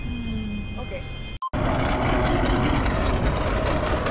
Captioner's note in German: angespannte Musik; Computer piepst